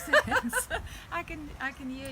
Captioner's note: laughing